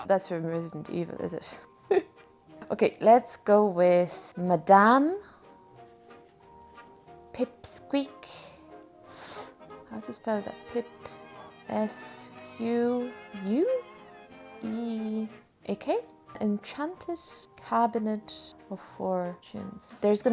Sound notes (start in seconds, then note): 1.8 hyena laugh